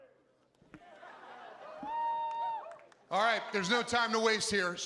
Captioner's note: cheering; applause